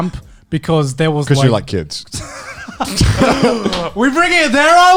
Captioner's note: laughs